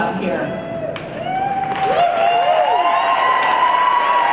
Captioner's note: applause